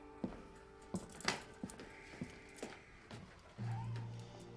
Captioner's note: handcuffs jangling